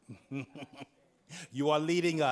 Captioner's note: chuckles